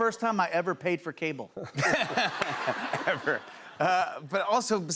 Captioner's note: laughter